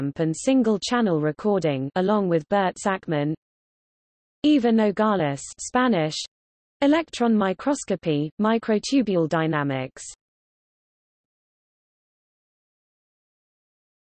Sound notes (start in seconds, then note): 5.2 Spanish